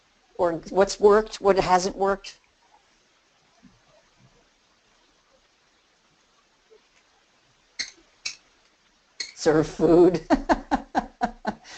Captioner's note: laughing